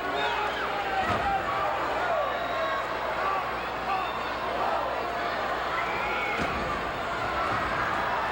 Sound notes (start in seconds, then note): 1.1 floor banging